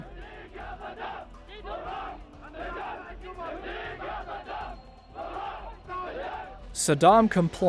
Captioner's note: chanting